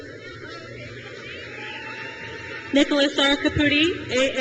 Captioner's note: crowd cheers